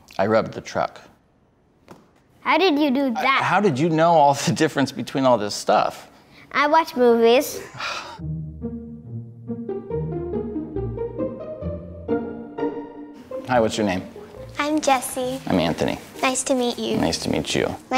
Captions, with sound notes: - I robbed the truck. - How did you do that? - How did you know all the difference between all this stuff? - I watch movies. (man sighs) - Hi what's your name? - I'm Jessie. - I'm Anthony. - Nice to meet you. - Nice to meet you.